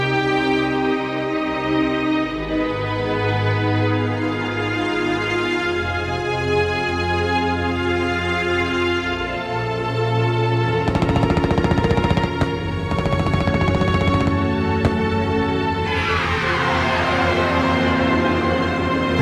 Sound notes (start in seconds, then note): 10.8 gunfire blasting; 15.6 somber orchestral music